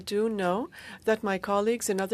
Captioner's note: speaking in French